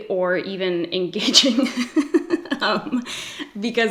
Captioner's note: laughs